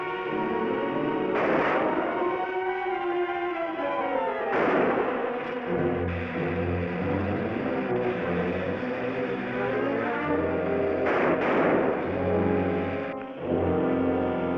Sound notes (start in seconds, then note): 1.2 gunshots bang; 7.1 suspenseful music